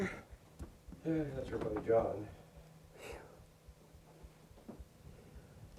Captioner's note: speaks off microphone